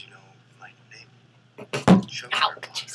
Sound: bangs water bottle on table

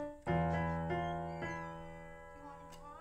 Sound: door creaks open

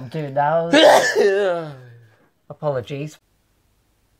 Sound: sneezes

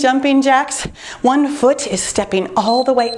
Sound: timer beeps

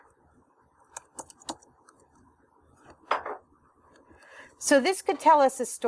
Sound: typing

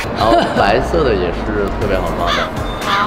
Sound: laughing to cover up embarrassment

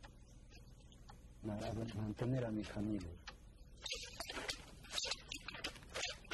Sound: non-English narration

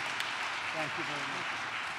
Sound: applause

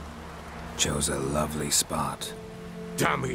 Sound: sarcastically

